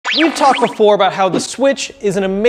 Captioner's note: loud screech